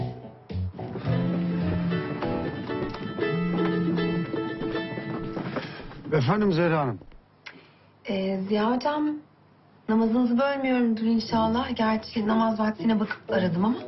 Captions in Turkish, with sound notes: (Telefon çalıyor) Efendim Zehra Hanım? Ee Ziya Hocam... Namazınızı bölmüyorumdur inşallah. Gerçi namaz vaktine bakıp da aradım ama...